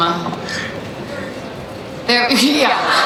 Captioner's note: crowd shouting